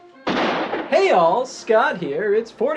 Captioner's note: folk music; gunshot